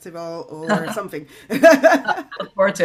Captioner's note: laughs